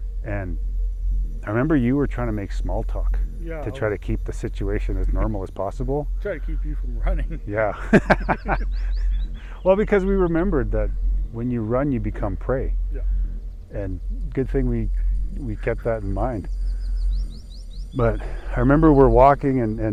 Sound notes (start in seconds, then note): 6.2 chuckles